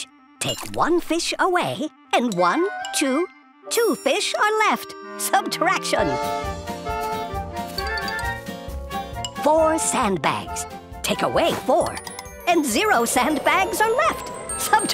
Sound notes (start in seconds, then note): none